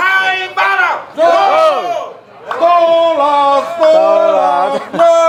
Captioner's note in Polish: Aplauz